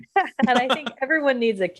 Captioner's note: laughing